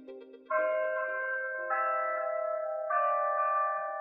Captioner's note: bells chiming